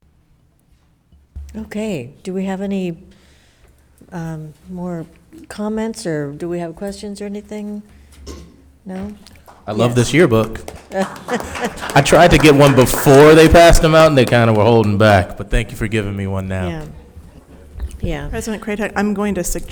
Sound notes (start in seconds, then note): 9.4 spectators applauding